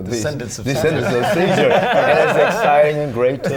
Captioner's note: laughter